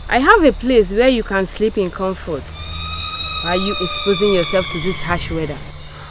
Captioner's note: screaming